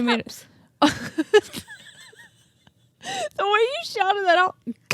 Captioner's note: both laughing